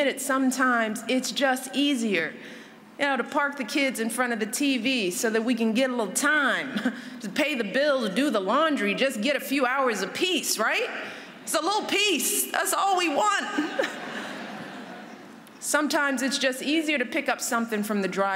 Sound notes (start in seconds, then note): 13.5 laughter